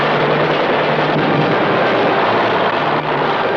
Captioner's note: instrumental music; explosion